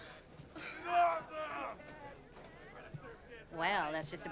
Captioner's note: shouting